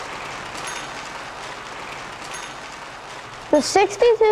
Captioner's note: bell ringing